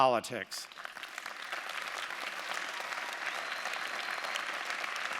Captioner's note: audience applauding